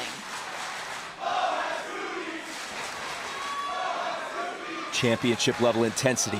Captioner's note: crowd cheering